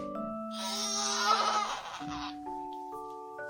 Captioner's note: wailing